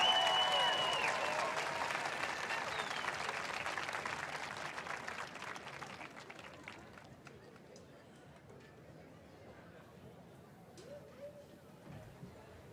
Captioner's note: cheering and applause